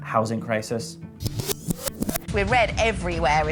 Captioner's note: tape rewinding